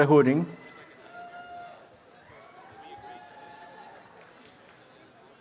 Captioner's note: audience applause